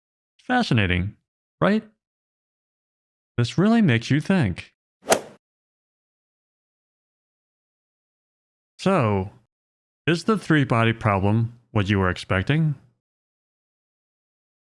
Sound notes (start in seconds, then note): 5.1 golf ball hit sound